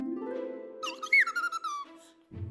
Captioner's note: chirps